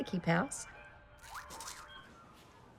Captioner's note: crunching